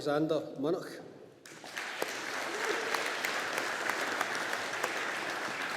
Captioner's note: audience applauding